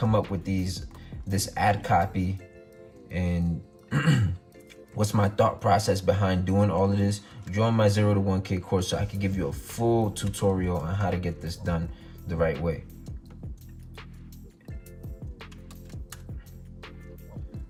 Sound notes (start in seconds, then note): 3.9 clears throat; 12.5 calm groovy music; 12.5 typing